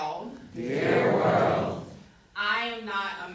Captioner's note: crowd